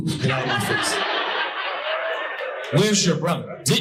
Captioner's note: audience laughing